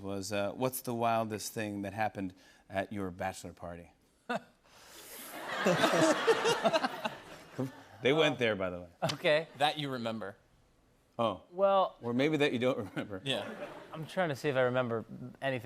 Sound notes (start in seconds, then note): 3.7 chuckles